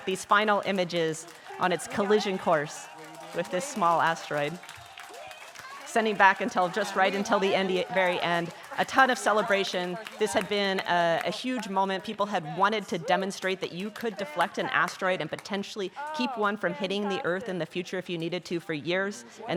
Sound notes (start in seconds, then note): 2.5 scientists chattering; 6.5 scientists cheering